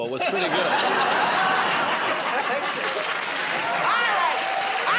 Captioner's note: laughter